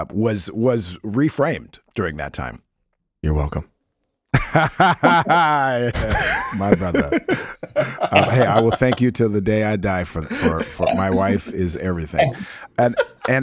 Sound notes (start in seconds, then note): 4.4 laughs; 12.7 everybody chuckles